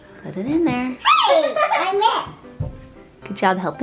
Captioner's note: laughs